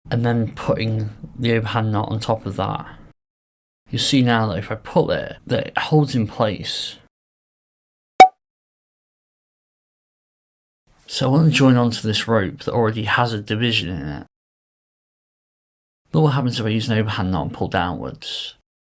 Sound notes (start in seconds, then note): 8.2 text pings